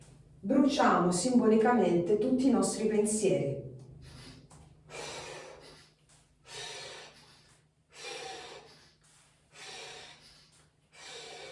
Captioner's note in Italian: sbuffare